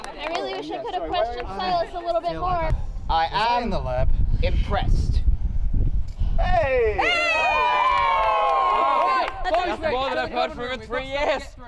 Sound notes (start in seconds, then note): 6.4 more Cheers